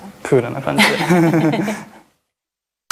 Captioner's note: laughs